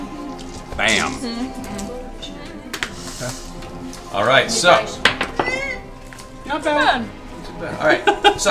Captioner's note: wordless squeal